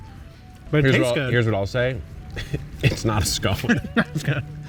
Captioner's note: laughing